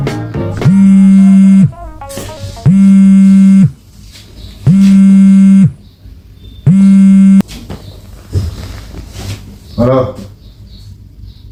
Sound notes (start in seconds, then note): 0.5 phone ringing